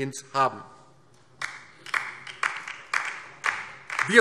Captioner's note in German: Beifall